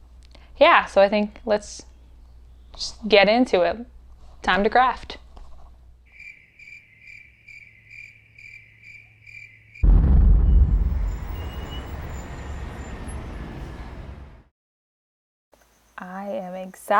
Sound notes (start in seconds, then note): 6.0 cricket sounds; 9.8 boom; 10.6 city sounds